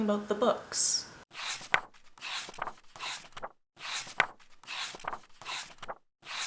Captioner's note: pages turning